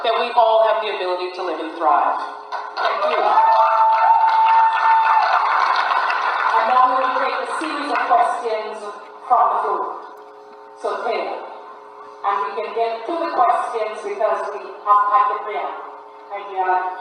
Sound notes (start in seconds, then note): 2.5 applause and cheers